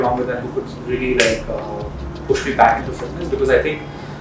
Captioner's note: fingers snap